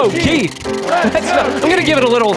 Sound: wheel spinning

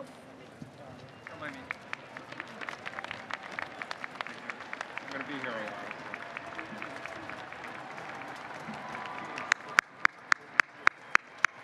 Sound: applause

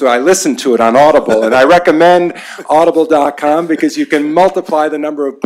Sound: laughter

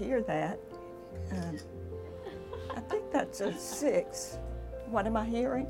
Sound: laugh

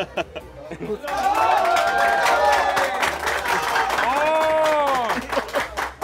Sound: clapping and cheering

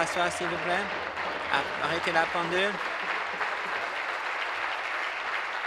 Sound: voice trailing; applause

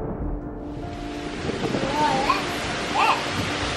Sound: heavy rain; piano music plays

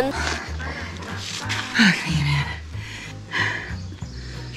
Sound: panting; panting

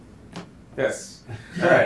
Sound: laughter

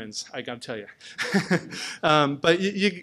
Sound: chuckles

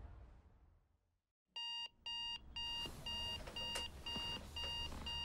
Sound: alarm beeping

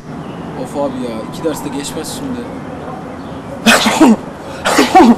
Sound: sneezing

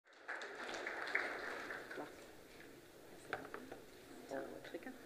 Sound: applause

